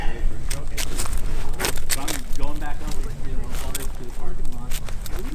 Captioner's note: climbing stick rattling